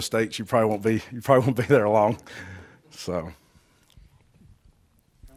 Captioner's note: chuckles